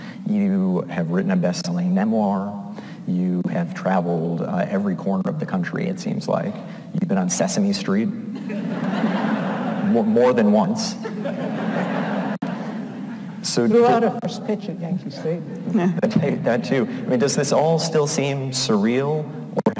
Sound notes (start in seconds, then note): 11.0 audience laughs